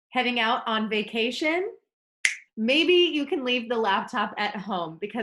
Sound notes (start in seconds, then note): 2.2 snaps fingers